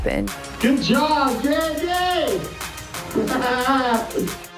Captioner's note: laughs